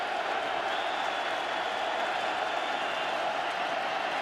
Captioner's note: cheering